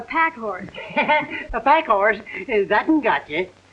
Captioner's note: chuckling